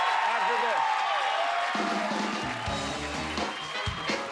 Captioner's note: applause